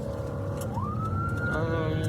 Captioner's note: siren blaring